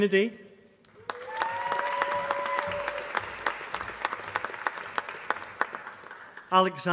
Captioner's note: applause